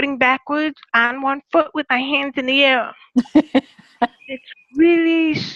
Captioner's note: laughter